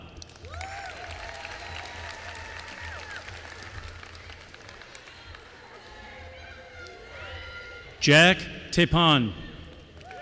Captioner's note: applause